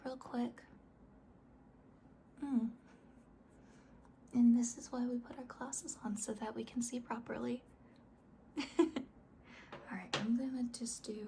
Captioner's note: laughs